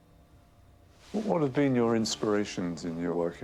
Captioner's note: voiceover